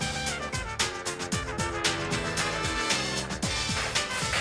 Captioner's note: aircraft engine drones